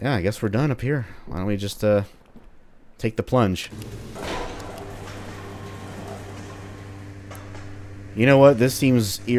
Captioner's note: freight elevator firing up